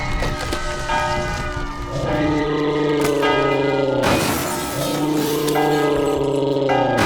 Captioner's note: shattering glass; demonic roaring, shattering and screaming continues